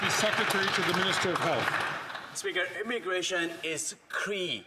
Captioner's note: some Applause